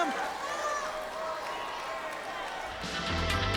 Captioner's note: crowd chatter